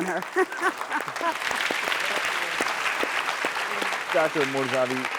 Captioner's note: laughing; audience applauding